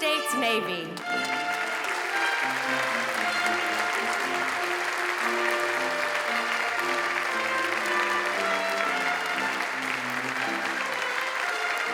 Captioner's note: applause